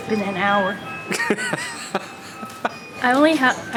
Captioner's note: laughs